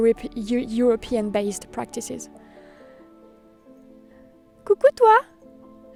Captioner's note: speaking French